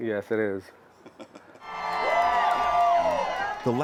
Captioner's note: laughter; cheering and applause